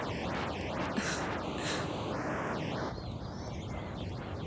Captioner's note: Trina chuckles